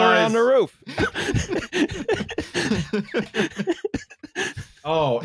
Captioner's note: laughter